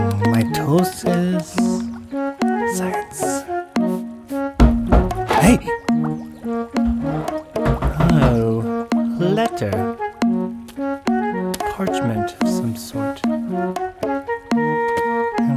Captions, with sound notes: Mitosis... science! (knock at door) Hey! (knock at door) Oh... a letter A parchment of some sort